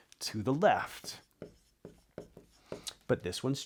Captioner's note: marker scratching